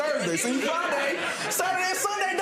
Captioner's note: audience laughing